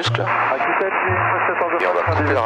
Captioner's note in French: bruits à la radio